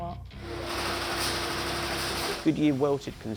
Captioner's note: factory equipment whirring